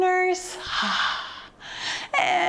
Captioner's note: exhales deeply